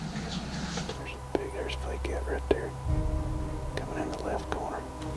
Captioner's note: whispering